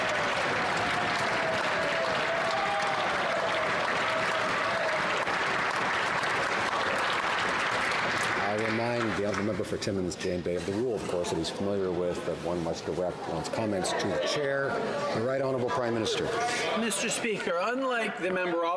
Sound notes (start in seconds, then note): 1.8 some Applause